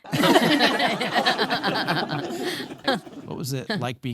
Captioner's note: both laughing